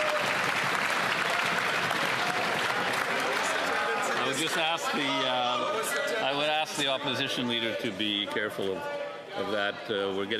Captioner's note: some Applause